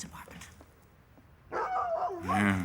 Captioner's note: Larry barking